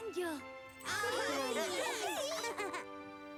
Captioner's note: excited chatter